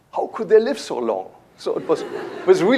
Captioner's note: laughter